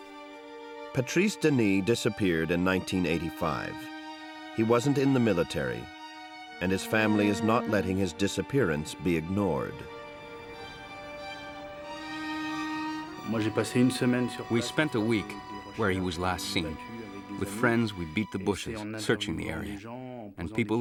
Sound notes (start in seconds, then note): 13.5 speaks in foreign language